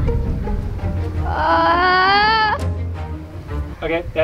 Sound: whimpers

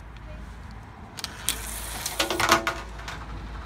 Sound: coin rolling down the tube

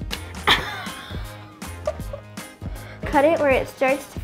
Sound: laughing

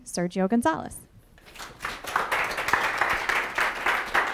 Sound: audience applauding

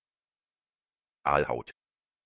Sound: fast Pronunciation

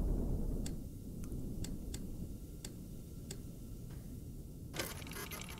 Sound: machine whirring

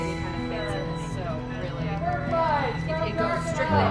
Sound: gentle upbeat music; group chattering

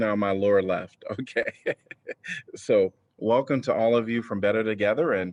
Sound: laughter

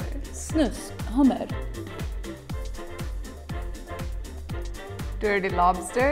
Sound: speaking in a foreign language

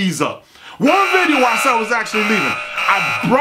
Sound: sirens

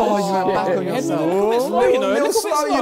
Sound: crowd mumbling

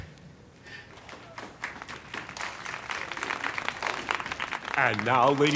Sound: audience clapping

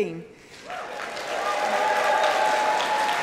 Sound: applause

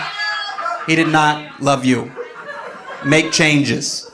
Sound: audience laughing

